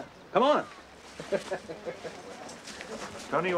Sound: chuckling

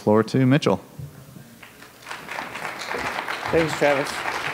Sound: applause

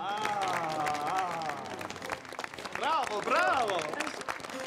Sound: audience applauding

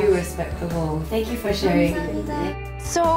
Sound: in Korean

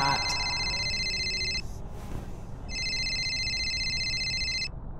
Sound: phone ringing

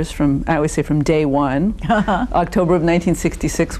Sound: laughing

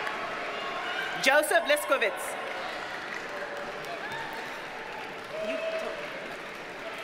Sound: audience cheers and applauds

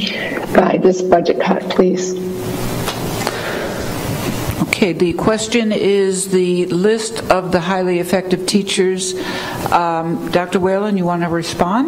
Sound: audio distortion

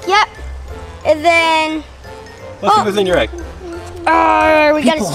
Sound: growls

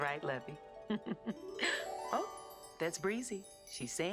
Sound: chimes

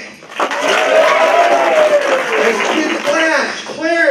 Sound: applause

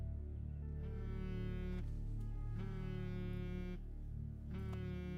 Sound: phone buzzing

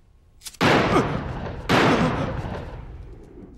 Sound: two gunshots

